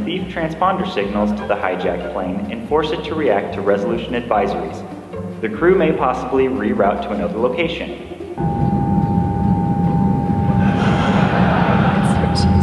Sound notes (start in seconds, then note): 10.6 laughter